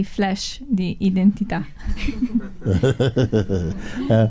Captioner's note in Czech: Mooji se směje